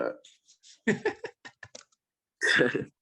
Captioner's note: laughs